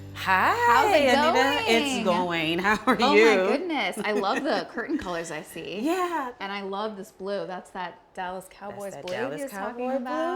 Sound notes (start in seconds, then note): 3.8 chuckles